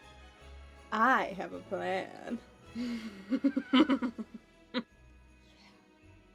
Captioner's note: mischievous giggles